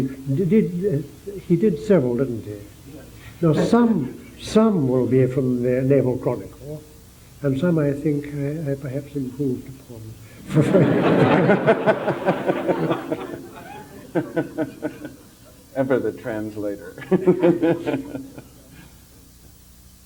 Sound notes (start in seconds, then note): 10.4 general laughter